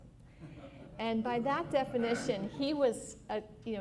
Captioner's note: laughter